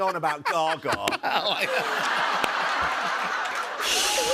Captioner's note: laughter; cymbals crash